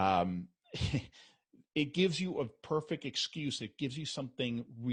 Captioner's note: chuckles